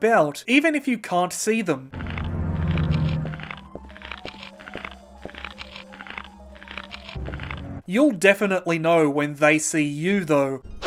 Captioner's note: raptor rummaging off screen; raptor shrieking